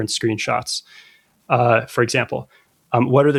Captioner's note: uh